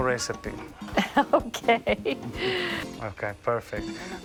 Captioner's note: laughs